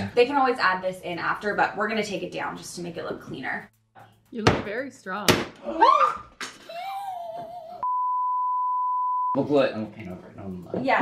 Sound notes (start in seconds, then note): 5.6 screaming; 6.6 all laughing; 7.9 screen beeping